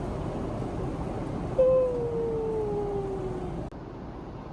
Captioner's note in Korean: 하아품